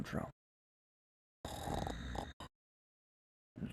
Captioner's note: snoring